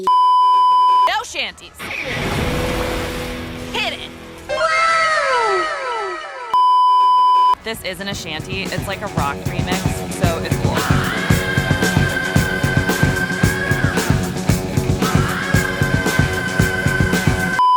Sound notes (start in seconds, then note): 0.0 beeeeeep; 3.2 guitar riff; 4.5 animeWow.wav